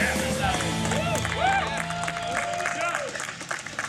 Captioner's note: cheering